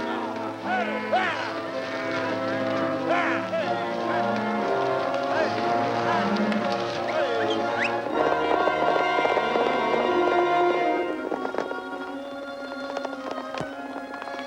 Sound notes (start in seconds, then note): 1.2 cowboys shouting; 8.7 horses galloping; 11.4 tense music